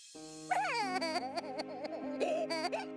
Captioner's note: sobbing